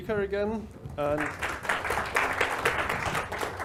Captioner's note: applause